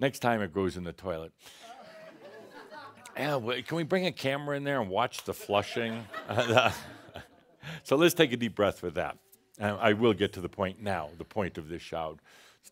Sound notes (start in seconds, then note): 5.4 more laughter and Adamus chuckles